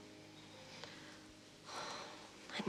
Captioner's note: sighs